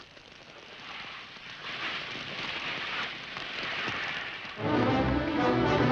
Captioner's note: water hissing; upbeat dramatic music